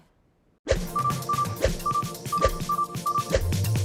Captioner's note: beeping